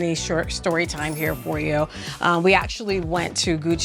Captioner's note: chimes ringing